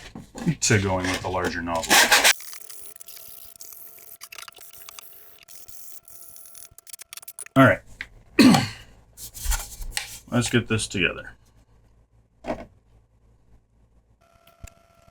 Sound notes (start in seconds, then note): 8.4 cough